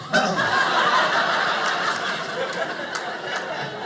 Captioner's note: audience laughing